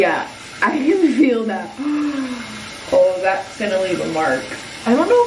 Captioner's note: gasps